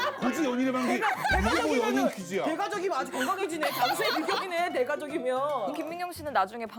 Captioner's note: cracking up